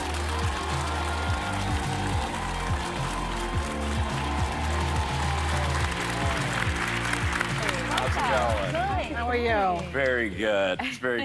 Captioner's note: applause